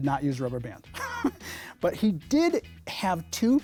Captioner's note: laughs